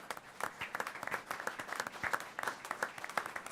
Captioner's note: applause